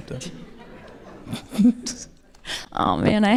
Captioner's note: audience laughing